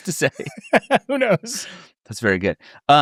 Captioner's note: laughs